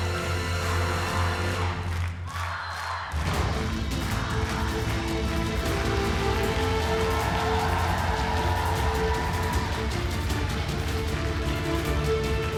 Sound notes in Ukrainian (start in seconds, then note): 6.2 оплески